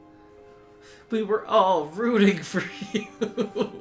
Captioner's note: laughs